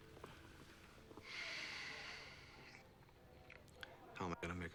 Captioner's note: sighing